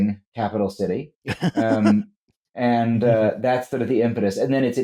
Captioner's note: laughs